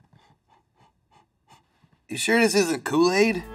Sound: sniffing

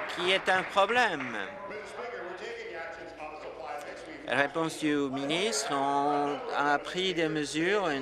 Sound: applause

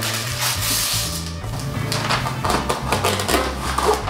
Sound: paper ripping

